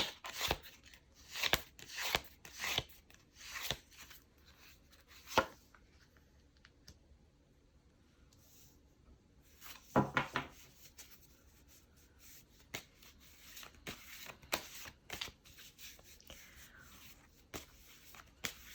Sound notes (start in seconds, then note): 7.1 drawing cards